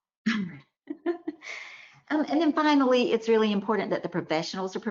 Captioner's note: chuckles